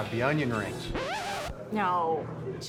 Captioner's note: record scratching sound